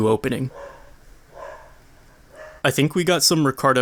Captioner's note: random dog outside my apartment